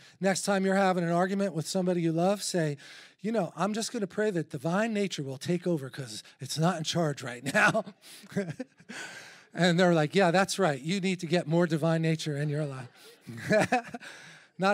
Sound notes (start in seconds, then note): 8.2 chuckles; 13.2 laughter